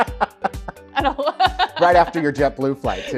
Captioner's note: laughs loudly; laughs